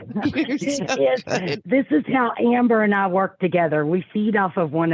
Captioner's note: laughing